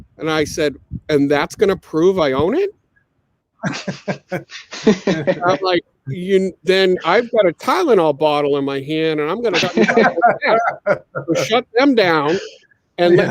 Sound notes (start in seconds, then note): 3.6 all laughing; 9.5 all laughing